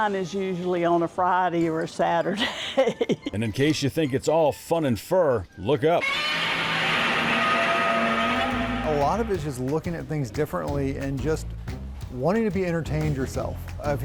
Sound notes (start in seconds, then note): 2.3 laughs; 6.0 dinosaur roaring